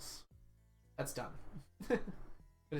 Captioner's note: laughs